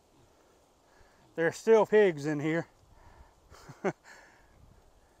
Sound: chuckling

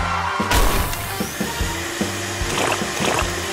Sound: vacuum cleaner whirring; sputtering sounds

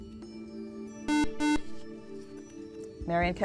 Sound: buzzer

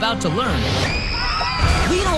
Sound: screams

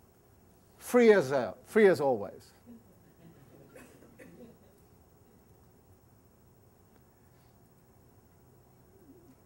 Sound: laughter

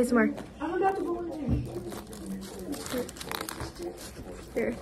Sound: crnuch

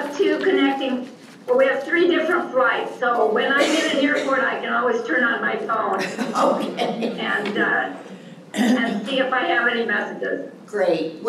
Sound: laughter

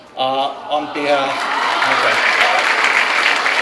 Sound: clapping

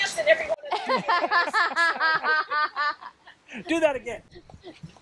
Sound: laughs

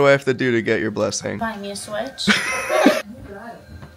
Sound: everyone laughs

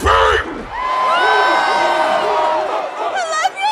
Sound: crowd whooping, cheering

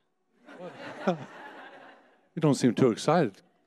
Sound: audience laughing

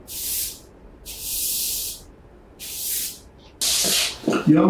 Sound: broom skidding

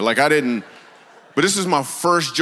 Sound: congregation laughs

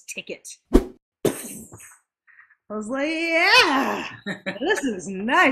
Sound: whoosh; imitates the sound of an explosion

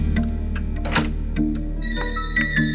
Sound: door opens

